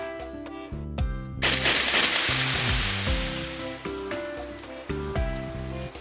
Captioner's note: splash! Splash! Splash!